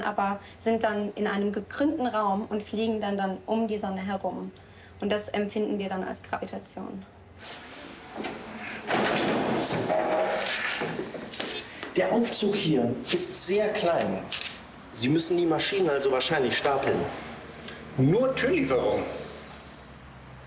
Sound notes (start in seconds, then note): 8.7 metallic sounds